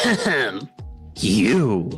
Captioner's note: coughing